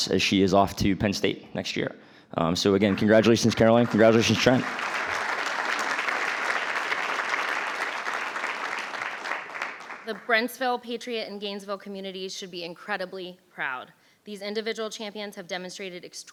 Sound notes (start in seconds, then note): 5.0 crowd clapping